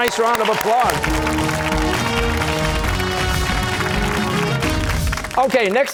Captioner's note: cheers and applause